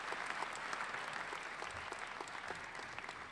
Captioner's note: applause